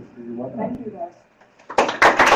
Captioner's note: applause